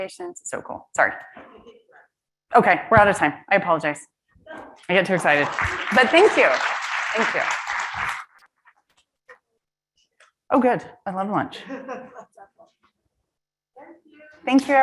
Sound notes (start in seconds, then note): 5.0 audience applauds; 11.8 audience member laughs